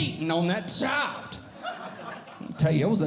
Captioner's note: audience Laughing